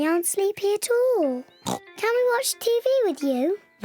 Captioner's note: oinks